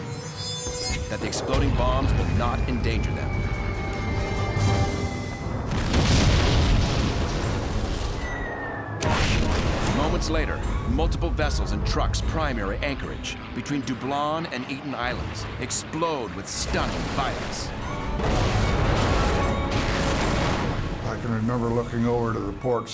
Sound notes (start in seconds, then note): 5.6 explosion; 7.9 missiles whirring; 8.7 explosion; 18.0 explosions